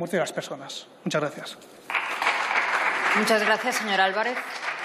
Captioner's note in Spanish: Aplausos